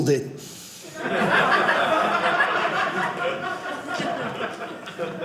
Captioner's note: audience laughing